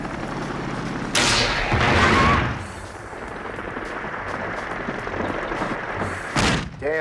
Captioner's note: explosion booming; rocket whooshing